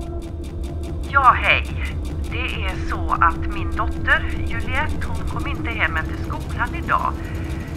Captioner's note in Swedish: telefonröst